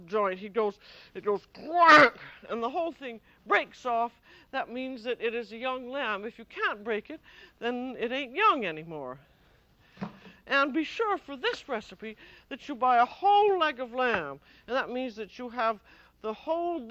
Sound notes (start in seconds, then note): 10.0 thudding